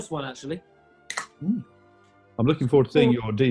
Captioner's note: opens can